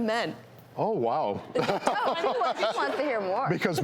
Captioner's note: laughing